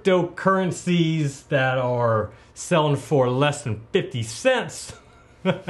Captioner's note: chuckles